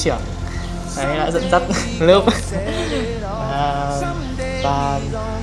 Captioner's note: laughs